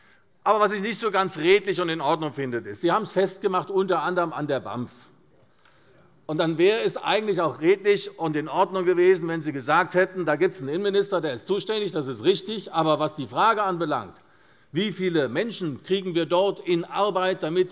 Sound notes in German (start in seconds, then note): none